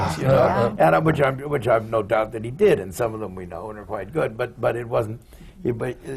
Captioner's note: laughs